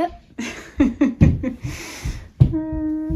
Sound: laughter

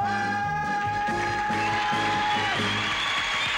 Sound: audience applauding and cheering

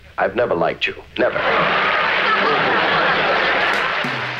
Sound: laughing

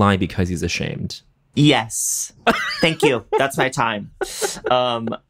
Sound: laughs

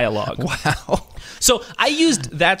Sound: laughs

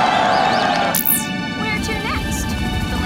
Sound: cheering

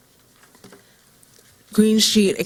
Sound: silence

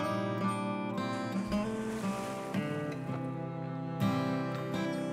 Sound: water splashing

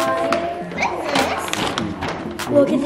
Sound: paper bag rustling

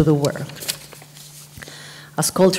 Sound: papers rustle

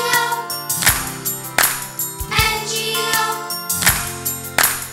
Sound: clap; clap; clap

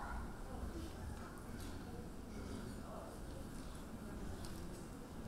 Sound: audience chattering

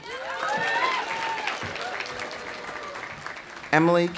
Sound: audience cheering; audience applauding

